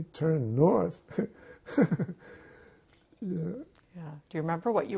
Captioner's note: laughing